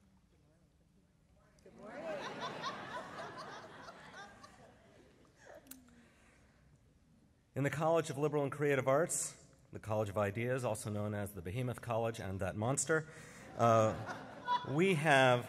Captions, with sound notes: >> Good morning. >> Good morning. [ Laughter ] >> In the college of liberal and creative arts, the college of ideas, also known as the behemoth college and that monster, we have --